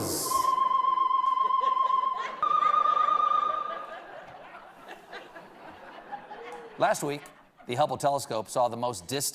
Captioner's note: echo